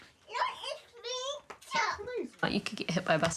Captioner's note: babbles